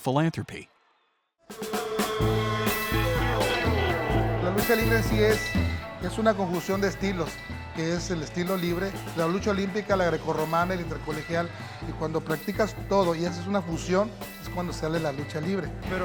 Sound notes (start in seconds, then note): 4.6 speaking Spanish